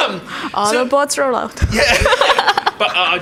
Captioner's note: laughs